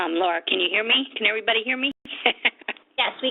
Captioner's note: laughs